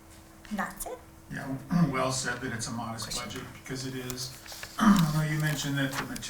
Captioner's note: clears throat